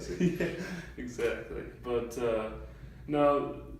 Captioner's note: laughs